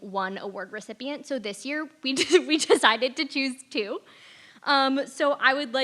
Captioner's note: laugh